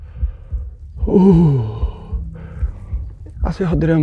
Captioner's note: breathing heavily